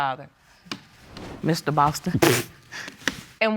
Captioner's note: scoffs